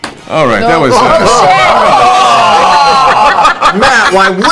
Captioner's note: groaning